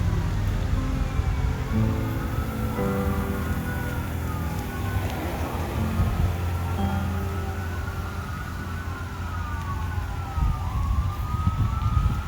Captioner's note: firetruck siren continuing